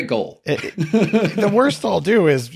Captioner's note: laughing